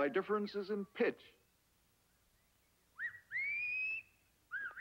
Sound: whistling

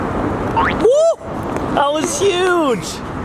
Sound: boings

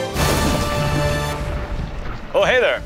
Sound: lightning crashing

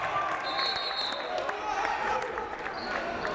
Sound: whistle

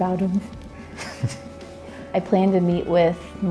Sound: laughs

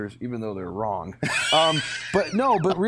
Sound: laughter

